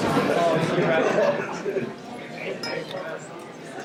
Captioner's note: people talking